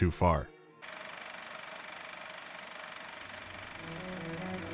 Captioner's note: rustling of a cinema reel